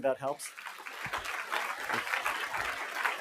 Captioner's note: applause